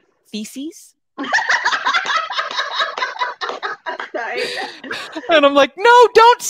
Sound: laughs out loud

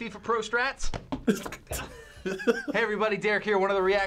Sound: ball thuds; chuckles

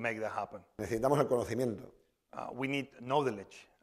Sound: speaking spanish

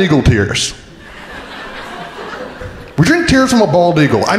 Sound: crowd laughing

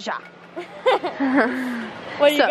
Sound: laughing

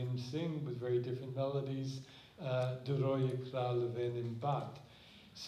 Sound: speaking hebrew

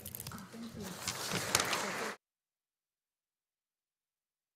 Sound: audience applauding

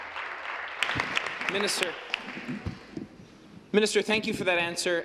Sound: applause

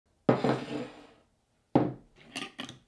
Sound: bowl sliding

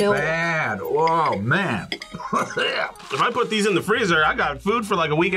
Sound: coughs

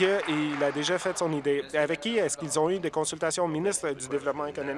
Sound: applause

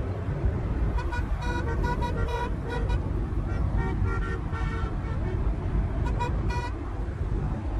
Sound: car horn honking

